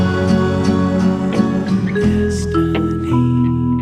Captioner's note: whispering